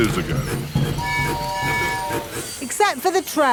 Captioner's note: train tooting